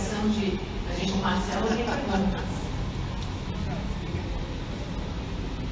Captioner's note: laughs